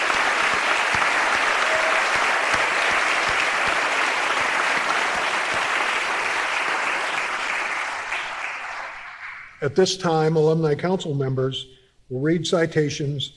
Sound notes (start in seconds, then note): 4.7 applause